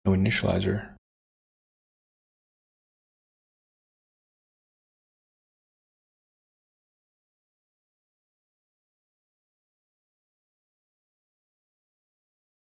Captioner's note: blank Audio